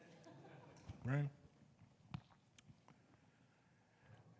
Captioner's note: audience members laughing